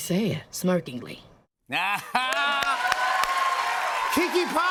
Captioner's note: laughs; cheers and applause